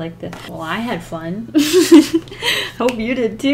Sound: laughs

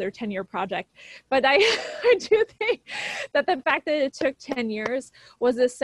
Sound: laughs

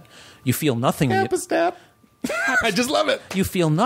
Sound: laughing

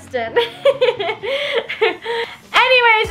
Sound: laughing

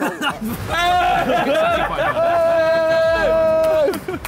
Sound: all cheering

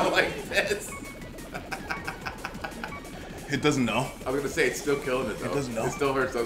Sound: laugh

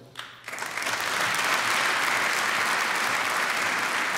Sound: applause

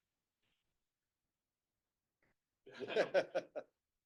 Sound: laughs

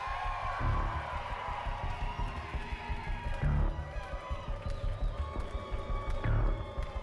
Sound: cheers

